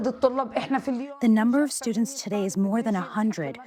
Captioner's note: through translator